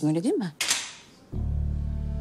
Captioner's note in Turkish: Kapı açıldı